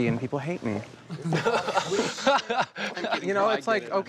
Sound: laughing

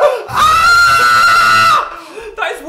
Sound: scream of pure terror

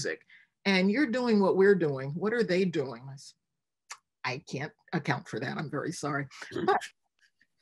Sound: laughs

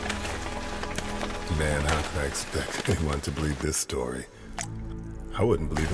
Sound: footsteps

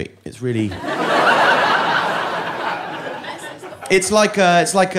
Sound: audience laughing

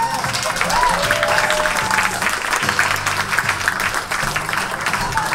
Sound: audience cheers and applauds

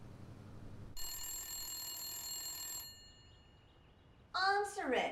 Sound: phone ringing

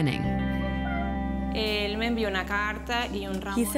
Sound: speaking spanish

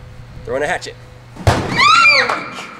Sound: woman screaming

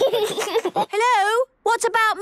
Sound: giggles

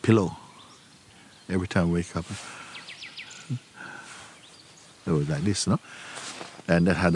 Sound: imitates reading and crying

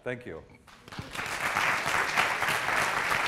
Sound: applause

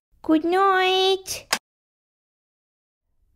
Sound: click!

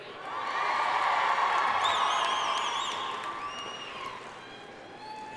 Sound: audience cheering and applauding

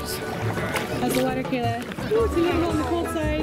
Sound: voiceover

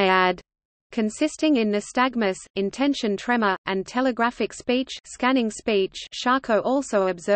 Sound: scanning speech

